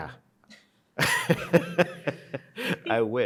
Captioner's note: laughing